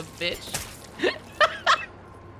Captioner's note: laughs